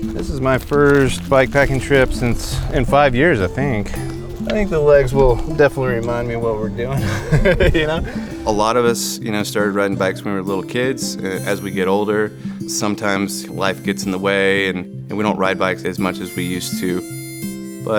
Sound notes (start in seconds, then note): 6.7 laughs